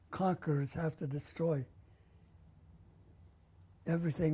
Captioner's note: pauses for 3 seconds